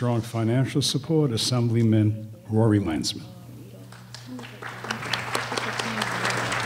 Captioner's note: applause